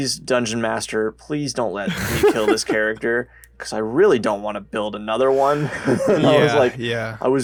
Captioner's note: laughs